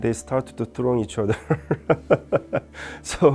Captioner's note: laughs